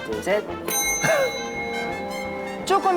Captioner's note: ding